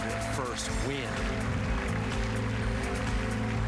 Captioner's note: applause